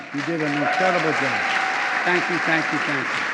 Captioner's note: applause